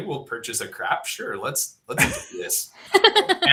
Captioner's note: laughter